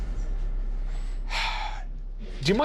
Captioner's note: dramatic sting; exhales